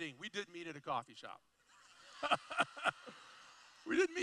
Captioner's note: laughter